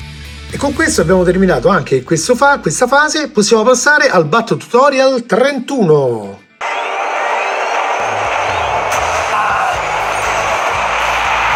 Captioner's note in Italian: Applauso